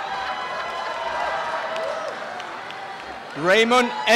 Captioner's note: applause and cheering